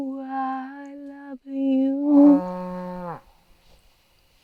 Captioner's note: cow moos